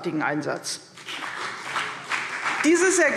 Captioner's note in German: Beifall